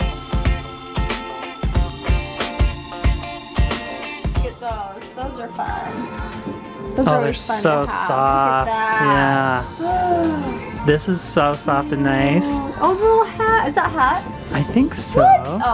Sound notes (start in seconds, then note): 0.2 upbeat music; 9.6 gasps